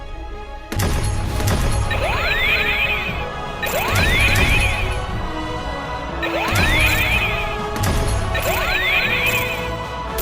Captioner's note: gunshots and laser blasts